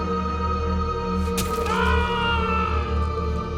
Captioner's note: screaming